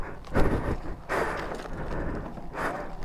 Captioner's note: heavy breathing